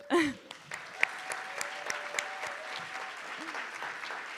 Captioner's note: attendees applauding